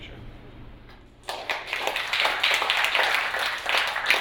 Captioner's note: applauding